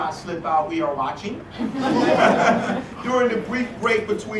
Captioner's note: laugh